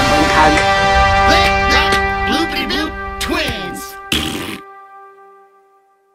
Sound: clapping

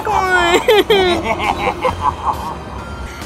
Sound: evil laughing

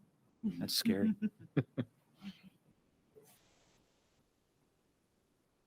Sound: board members chuckling

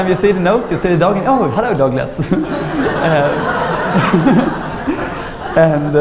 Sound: laughter

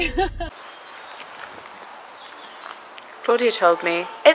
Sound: birds chirping

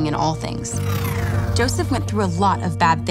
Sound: loud whooshing

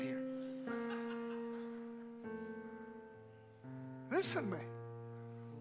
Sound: congregants laugh

